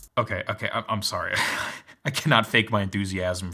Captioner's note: chuckles